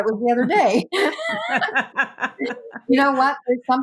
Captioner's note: all laugh